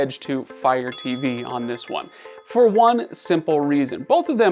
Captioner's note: bell dings